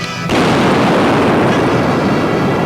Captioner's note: safe booms; exciting music; guns bang